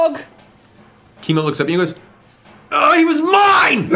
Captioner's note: frustrated noise